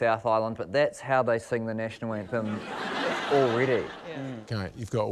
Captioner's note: laughter